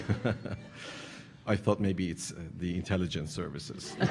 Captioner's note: audience laughing